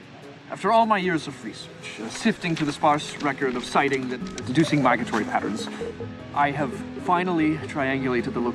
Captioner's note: none